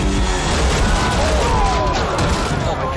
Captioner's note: crowd groans